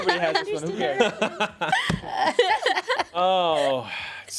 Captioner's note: everyone laughs; faintly speaking